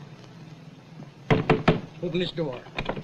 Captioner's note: knocks